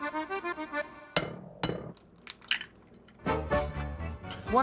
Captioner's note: upbeat music; egg cracking